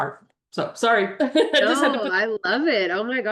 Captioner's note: laughs